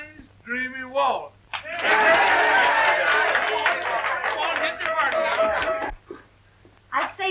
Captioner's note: cheering